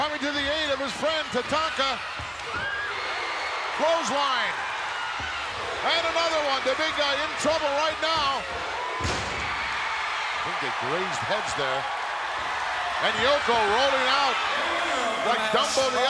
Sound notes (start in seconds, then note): 8.1 body thuds; 9.5 audience cheering